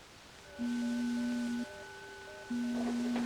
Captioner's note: door beeping